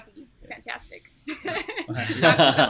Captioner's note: laughing